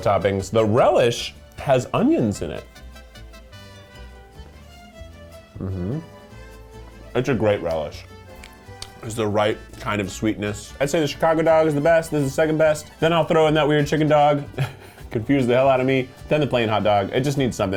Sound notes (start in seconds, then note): 2.8 lighthearted music; 14.5 laughs